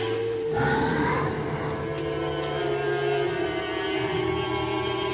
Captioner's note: leaves rustling; werewolf growling